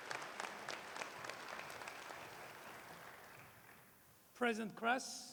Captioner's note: applause